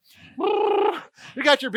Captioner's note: buzzes lips